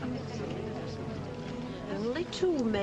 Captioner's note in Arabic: ثرثرة ناعمة